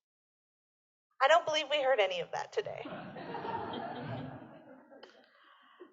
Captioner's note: laughter